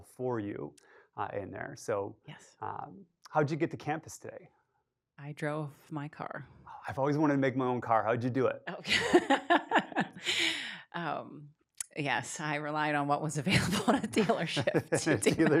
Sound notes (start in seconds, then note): 8.8 laughs